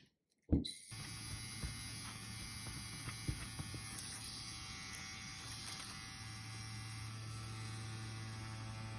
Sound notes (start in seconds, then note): 0.8 machine buzzing quietly